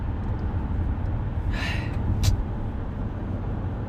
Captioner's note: exasperated sigh